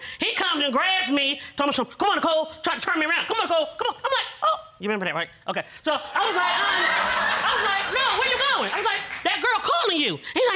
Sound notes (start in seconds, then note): 6.0 audience laughing